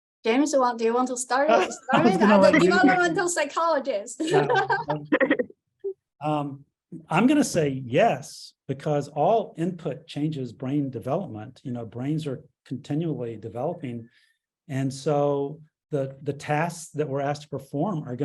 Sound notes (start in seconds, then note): 1.4 laughing; 4.2 chuckles